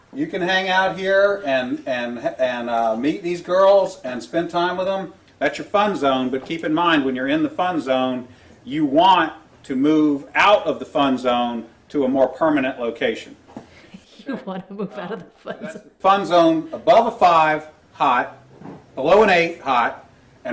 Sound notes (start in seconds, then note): 13.9 laughs